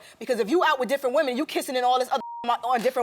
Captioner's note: beep